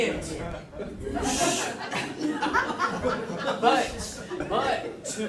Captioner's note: audience laughing